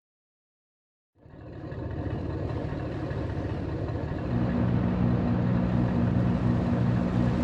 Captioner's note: engine revving